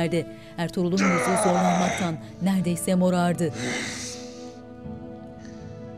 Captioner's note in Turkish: Bağırma sesi